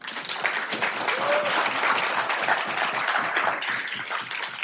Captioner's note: audience applauding